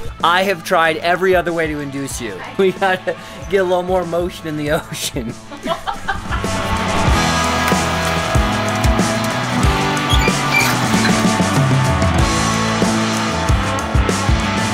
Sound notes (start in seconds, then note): 5.2 laughter; 7.7 rock music